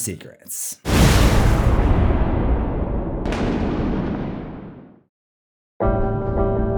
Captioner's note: thunder